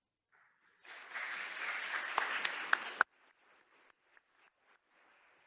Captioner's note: attendees applauding